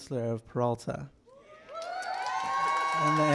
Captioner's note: applause